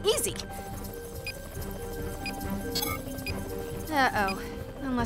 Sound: beeping

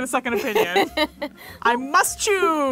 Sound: laughing

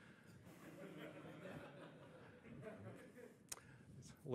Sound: audience laughing

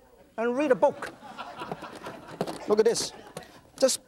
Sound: audience laughs

